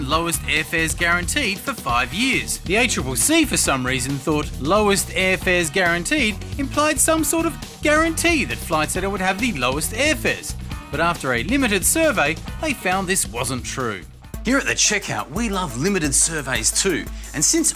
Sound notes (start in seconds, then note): none